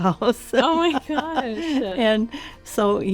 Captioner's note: laughing